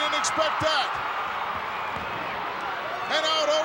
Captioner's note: applause